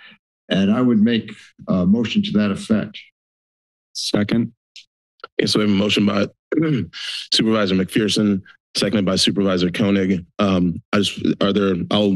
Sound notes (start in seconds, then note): 6.5 clears throat